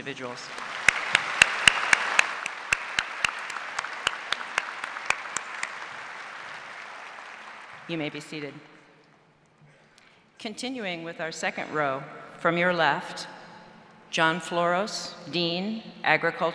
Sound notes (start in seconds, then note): 4.9 applause